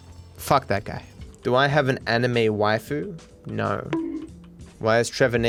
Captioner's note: bonk